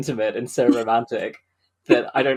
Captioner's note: laughs